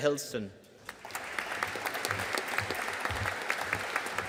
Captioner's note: audience applauding